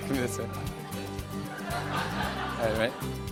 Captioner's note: laughter